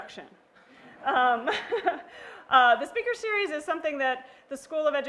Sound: laugh

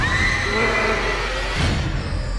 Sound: screaming

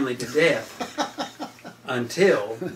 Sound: laughs

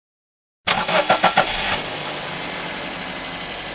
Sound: car starting

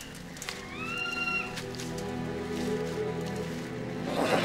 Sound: birds screeching

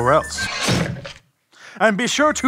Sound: guillotine chop

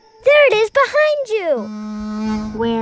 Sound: buzzing

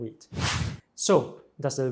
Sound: screen swooshes

